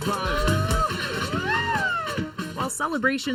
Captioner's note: cheering